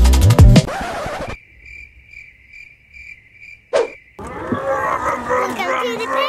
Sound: crickets chirping

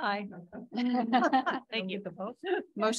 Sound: audience laughing

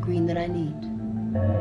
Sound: alarm warbles

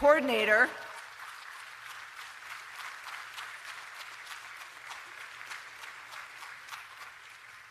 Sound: applause

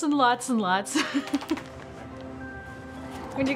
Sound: dog shaking

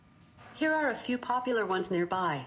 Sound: electronic voice

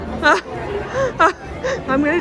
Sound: crowd chattering; laughing

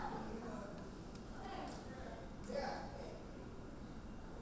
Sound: audience chattering

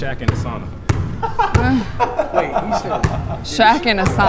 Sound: guys laughing

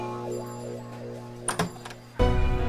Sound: door opens

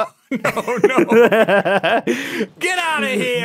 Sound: laughs

